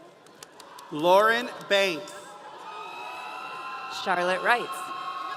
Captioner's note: audience cheering